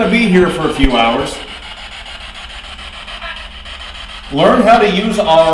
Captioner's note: static buzzing